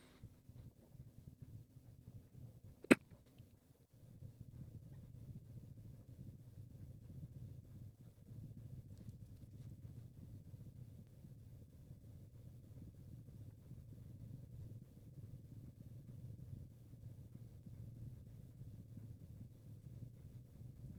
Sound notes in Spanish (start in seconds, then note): 0.2 Silencio; 7.2 Silencio